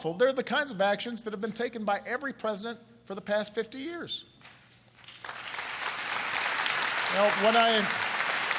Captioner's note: applause